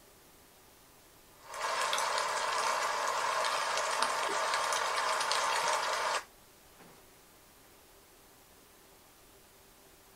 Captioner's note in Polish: Aplauz